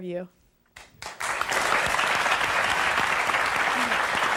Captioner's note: audience clapping